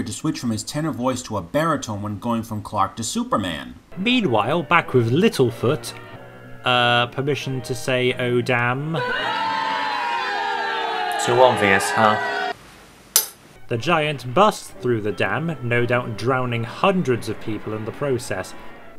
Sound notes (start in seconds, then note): 8.9 audience boos